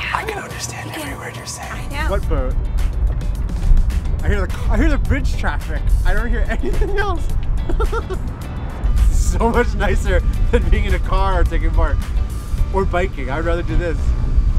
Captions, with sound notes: What boat? I hear the bridge traffic. I don't hear anything else. (laughs) This is so much nicer than being in a car or taking BART or biking. I'd rather do this.